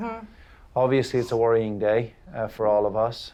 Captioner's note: none